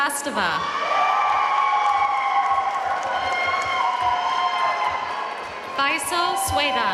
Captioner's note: audience cheering and applauding